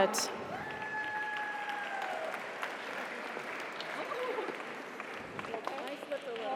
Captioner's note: audience applauds; audience cheers